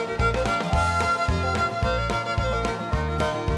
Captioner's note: chuckling